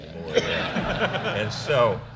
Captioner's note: laughter